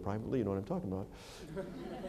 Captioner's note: laughter